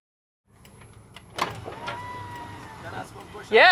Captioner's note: window winding down